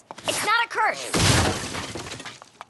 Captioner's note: crash!